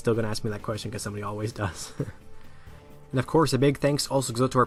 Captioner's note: laughs